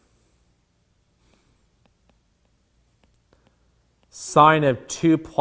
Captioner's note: stylus tapping